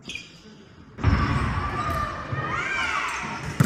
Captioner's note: squeaking; thud; cheering